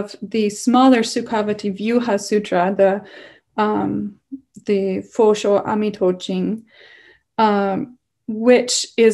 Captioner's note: non-english